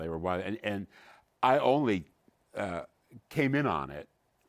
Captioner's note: none